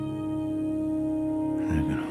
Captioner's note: insects chirping